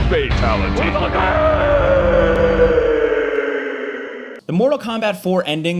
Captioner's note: Jarek screaming